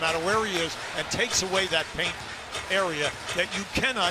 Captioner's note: announcer in background